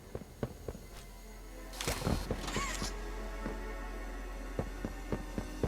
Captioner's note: footsteps